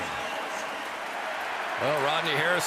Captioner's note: pa announcement; cheering